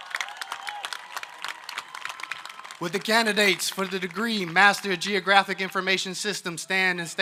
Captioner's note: applause